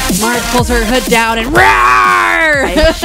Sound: laughs

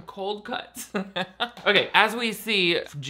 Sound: laughing

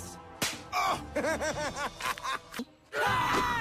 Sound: snap; evil laughter

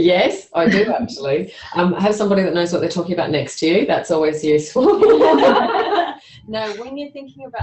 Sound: laughs; laughter

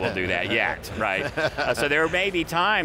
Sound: men chuckle

